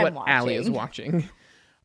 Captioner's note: laughs